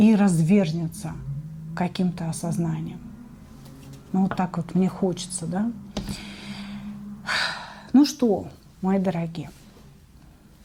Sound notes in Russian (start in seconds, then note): 5.8 вздыхает; 6.0 тяжело вздыхает